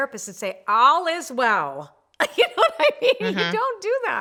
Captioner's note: laughs